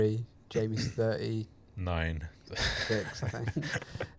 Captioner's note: laughs